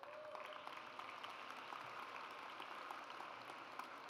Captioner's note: audience applauds